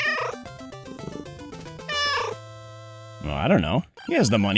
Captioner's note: meow